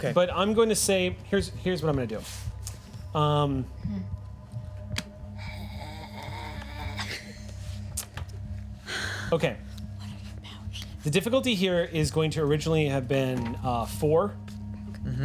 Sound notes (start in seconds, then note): 5.2 groaning; 6.0 laughing